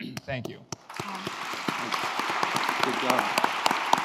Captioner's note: applause